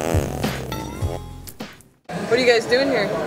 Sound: fart noise

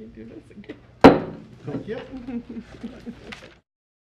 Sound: gavel bangs

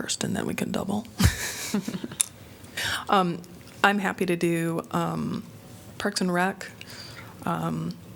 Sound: laughter

